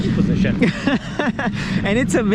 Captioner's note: laughing